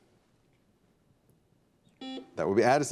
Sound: buzzer beeps

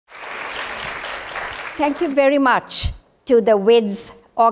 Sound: applause

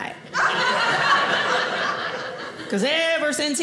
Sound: audience laughing

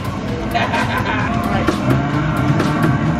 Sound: laughter

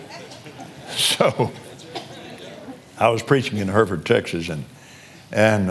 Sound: laughs

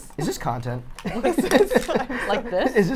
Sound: laughs

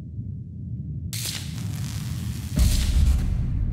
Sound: electrical zapping

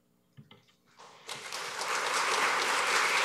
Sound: applause

